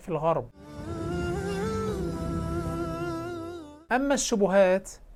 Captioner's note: logo and sound effect